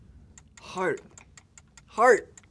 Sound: timer ticking

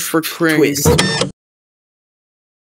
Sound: printer

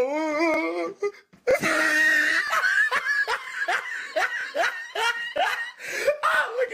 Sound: laughing in Comedy

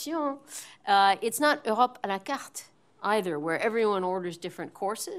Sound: french

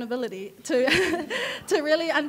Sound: laughing

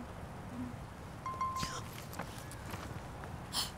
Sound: phone ringing; gasping

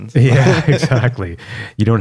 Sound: laughter

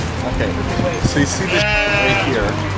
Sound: baa

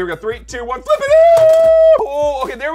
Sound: screaming

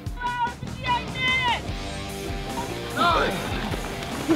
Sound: shouting

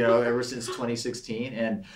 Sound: laughs

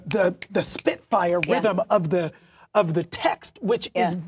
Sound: snaps fingers

